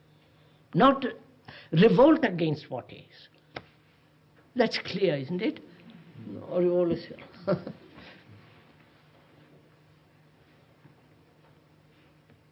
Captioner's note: laughs